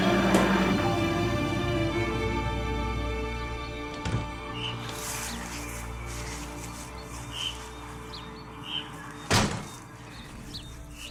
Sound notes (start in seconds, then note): 0.0 tardis lands; 3.8 tardis door opening and closing